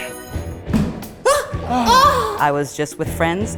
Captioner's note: groans